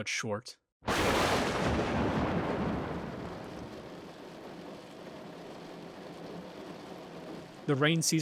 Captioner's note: thunder and rain